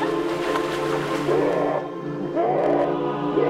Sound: shrieking

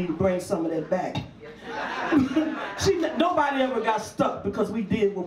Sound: audience laughs; laughs

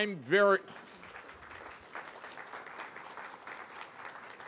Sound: applause

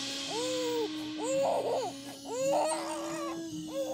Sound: crying

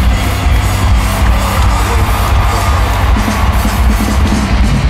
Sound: fans cheering; upbeat rock music

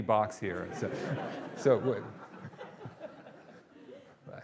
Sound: audience laughing

